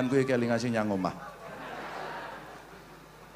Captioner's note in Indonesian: tertawa